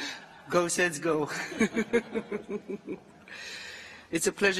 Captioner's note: laughter